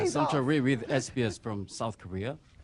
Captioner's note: laughter